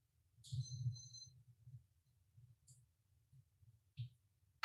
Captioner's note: timer beeping